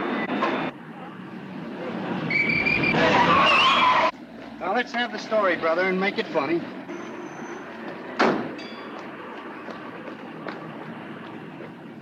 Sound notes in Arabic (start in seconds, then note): 0.6 صرير الإطارات; 2.2 صافرة الشرطة